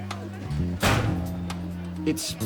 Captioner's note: locker door slams